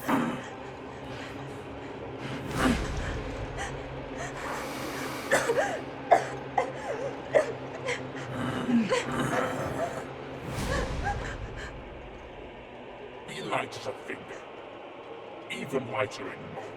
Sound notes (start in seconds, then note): 0.1 leprechaun grunting; 5.0 Sadie coughing; 8.3 leprechaun grunting